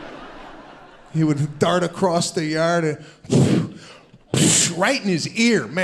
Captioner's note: audience laughs; imitates whooshing